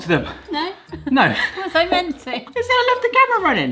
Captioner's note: laughter